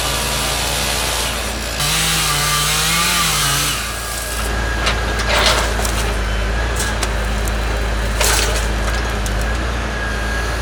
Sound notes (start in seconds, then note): 2.0 chainsaw humming